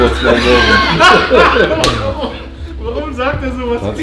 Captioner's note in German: Jungs lachen